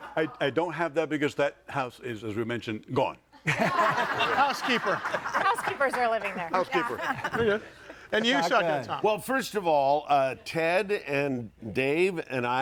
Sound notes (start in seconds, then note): 3.4 audience laughing